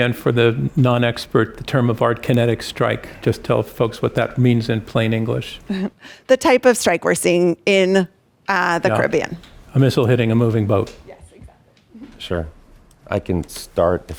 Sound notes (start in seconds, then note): 5.8 laughs